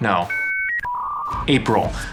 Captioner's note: computer screeching